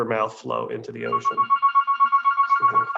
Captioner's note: phone ringing